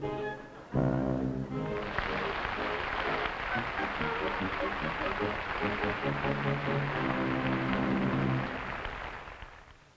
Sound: applause

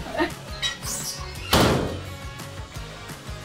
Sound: locker slams

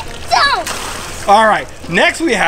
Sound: water splashes

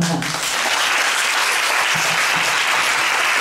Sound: applause

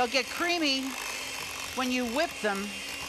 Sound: mixer mixing

